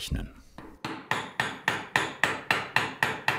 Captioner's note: hammering